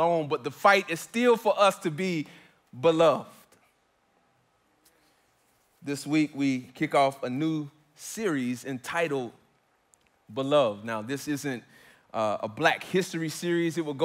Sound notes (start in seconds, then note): none